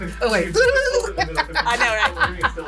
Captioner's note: chuckles; laughing